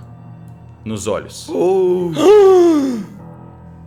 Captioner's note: gasp